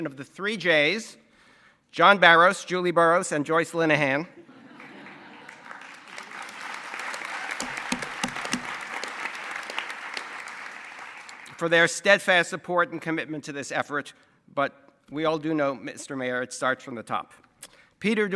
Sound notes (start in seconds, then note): 4.4 laughter and applause